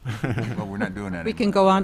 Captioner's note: chuckles